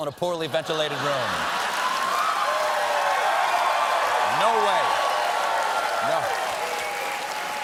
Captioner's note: cheers and applause